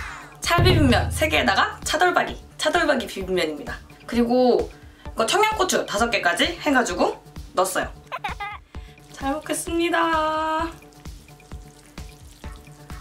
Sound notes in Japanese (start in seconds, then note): 8.1 イヒヒ